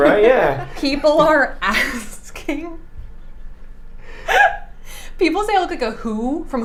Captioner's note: laughing